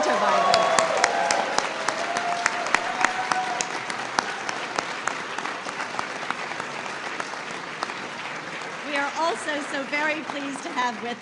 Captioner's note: applause